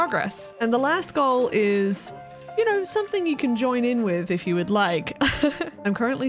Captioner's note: chuckle